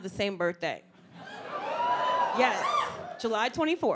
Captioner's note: audience cheers